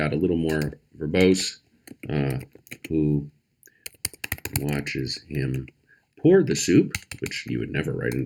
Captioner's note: typing